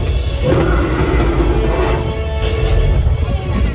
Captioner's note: king kong - roars